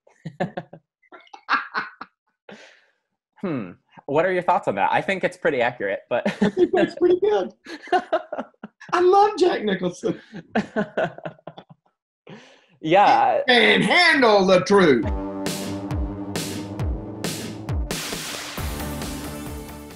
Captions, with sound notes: (both laugh) Hmm. What are your thoughts on that? I think it's pretty accurate, but (laughs). - That's pretty good, I love Jack Nicholson (laughs). - Yeah. - You can't handle the truth. (upbeat music)